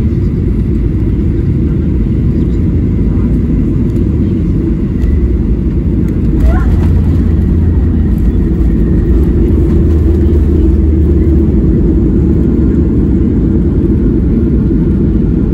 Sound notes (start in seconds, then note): 9.8 engine Reverse Thrust